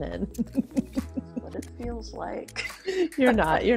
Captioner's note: laughs